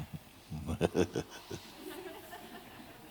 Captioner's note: laughter